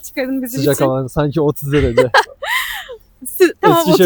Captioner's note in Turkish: kahkaha